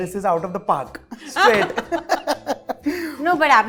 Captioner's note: chuckles